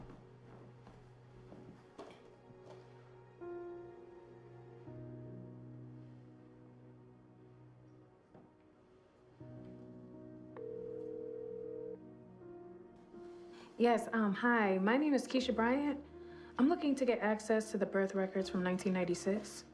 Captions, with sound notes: [phone dialing] Yes. Hi. My name is Keisha Bryant. I'm looking to get access to the birth records from 1996.